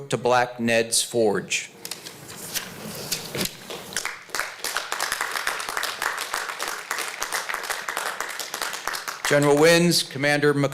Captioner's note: applause